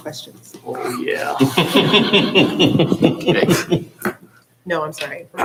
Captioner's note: chuckling